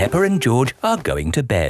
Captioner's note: none